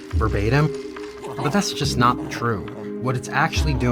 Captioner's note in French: chien grogne